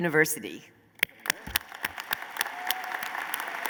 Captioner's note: applause